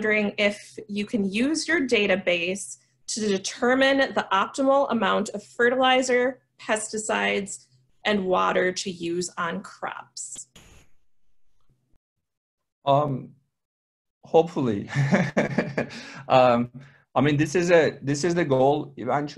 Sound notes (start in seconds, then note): 14.8 laughs